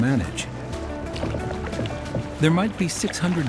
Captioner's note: water splashing